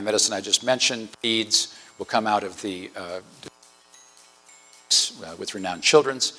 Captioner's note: audio distortion; distortion